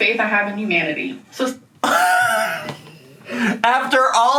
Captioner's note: laughs